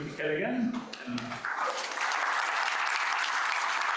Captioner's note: audience applauds